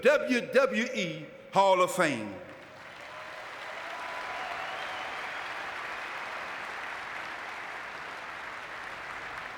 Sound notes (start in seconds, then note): 2.4 audience clapping